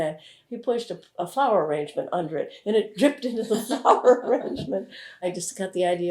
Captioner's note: laughter